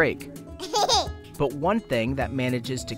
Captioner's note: laughter